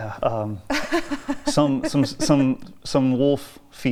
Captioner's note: laughs